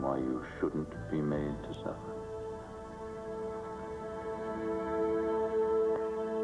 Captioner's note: normal voice